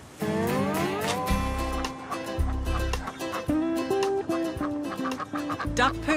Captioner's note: ducks quack